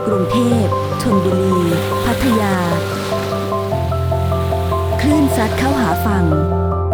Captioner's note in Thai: เสียงคลื่น